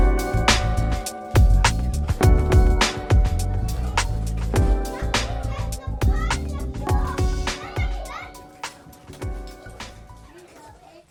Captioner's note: theme song fades into the sounds of kids playing